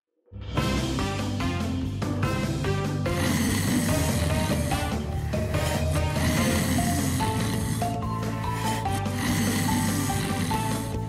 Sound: snores

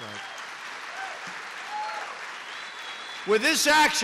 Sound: applause

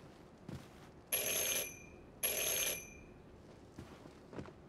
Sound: doorbell rings

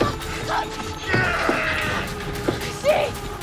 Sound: Ben groaning

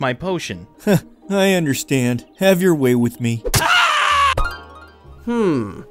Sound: screams

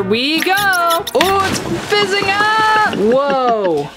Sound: water guggling

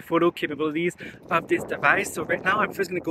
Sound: air whooshing

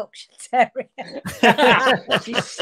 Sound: group laughing

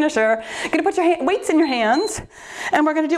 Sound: timer beeps

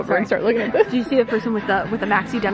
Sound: laughs

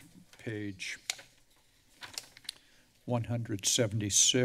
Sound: papers flipping

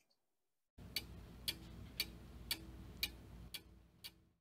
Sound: clock Ticking

